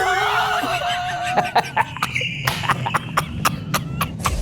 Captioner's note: laughs